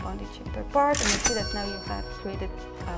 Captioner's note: cash register cha-ching